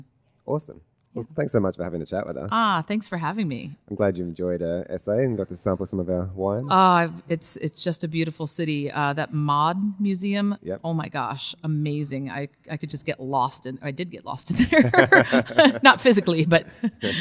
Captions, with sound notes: - Awesome, well thanks so much for having a chat with us. - Ah, thanks for having me. - I'm glad you've enjoyed S.A. and got to sample some of our wine. - Ah it's just a beautiful city, that mod museum. - Yep. - Oh my gosh, amazing, I could just get lost in or I did get lost in there. (both laugh) Not physically but.